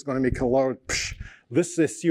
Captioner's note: mimics explosion sound